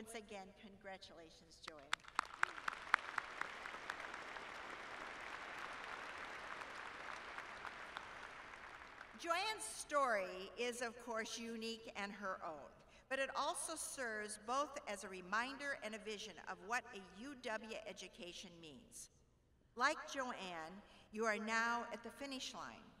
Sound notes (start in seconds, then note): 3.6 applause